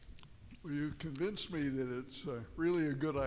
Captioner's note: voiceover